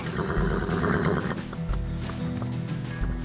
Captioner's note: horse neighing; guitar music